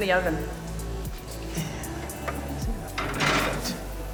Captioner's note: pan clattering